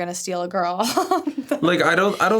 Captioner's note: giggles